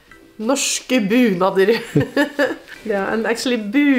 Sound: speaks in foreign language and laughs

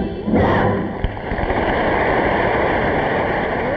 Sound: audience applauding

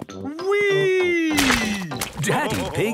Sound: splashes

